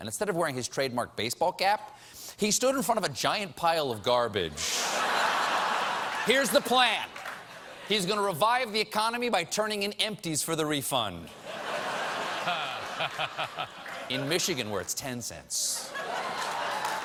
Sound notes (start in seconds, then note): 4.6 laughter